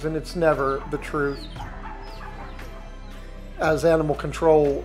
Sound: dogs whimpering and chicks peeping

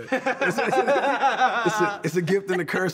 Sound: laughter

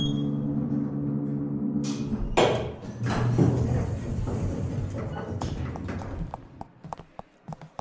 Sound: service elevator door opens; footsteps

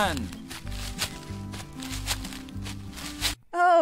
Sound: leaves rustling

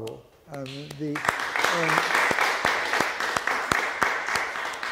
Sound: audience applauding

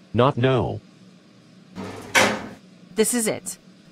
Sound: elevator stopping sound

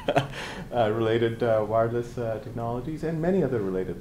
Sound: chuckles

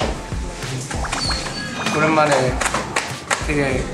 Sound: patting

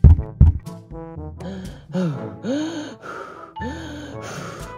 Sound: breathes

